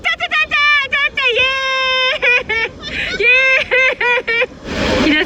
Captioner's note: laughing